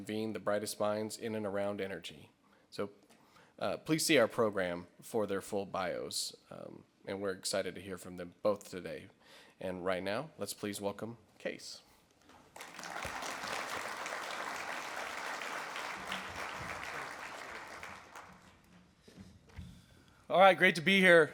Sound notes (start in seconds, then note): 12.3 audience clap